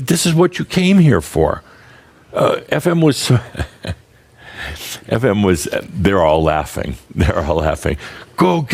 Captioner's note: Adamus chuckles